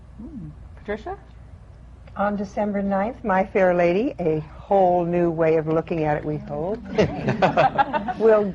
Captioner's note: laughter